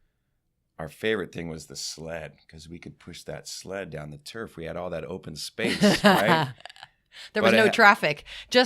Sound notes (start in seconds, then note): 5.6 laughing